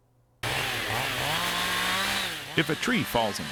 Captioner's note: power saw revving